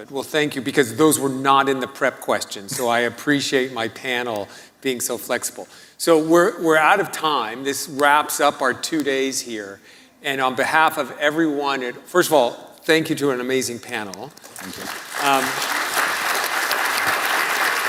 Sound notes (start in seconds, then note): 14.4 applause